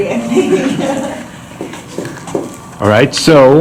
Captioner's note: chuckles